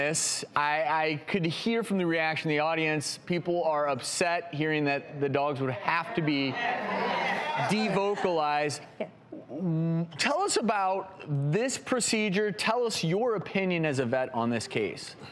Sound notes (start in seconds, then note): 6.0 crowd yelling